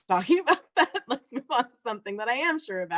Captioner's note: laughter